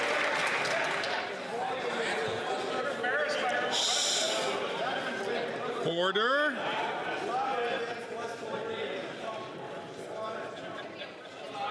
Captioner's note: some Applause